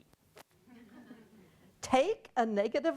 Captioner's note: audience laughing